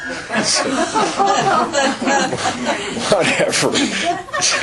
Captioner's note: laughter